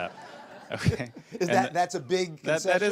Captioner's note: laughter